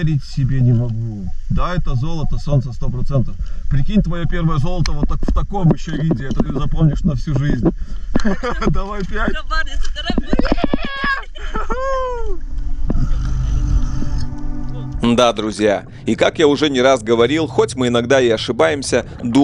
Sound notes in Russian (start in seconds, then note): 8.1 смех